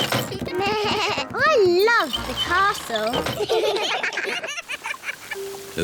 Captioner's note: bleats; all laugh